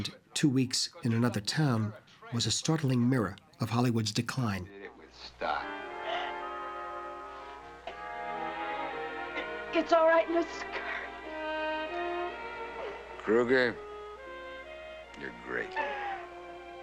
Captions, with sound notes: and Two Weeks In Another Town... was a startling mirror of Hollywood's decline. - Did it with style. - [Sobs] L-It's all right, Mrs. Curry. - Kruger, you're great. - [Woman Sobbing On-screen]